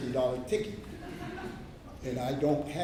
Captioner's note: laughter